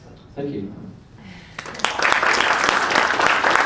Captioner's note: audience Claps